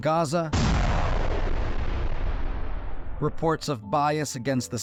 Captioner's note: explosion